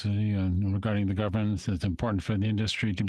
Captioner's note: speaking French